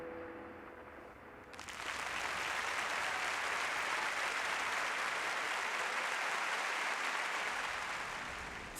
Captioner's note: applause